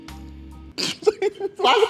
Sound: snorts

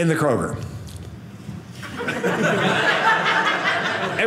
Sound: audience laughing

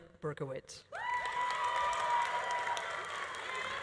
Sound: audience cheering; audience applauding

